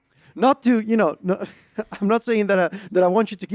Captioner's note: laughs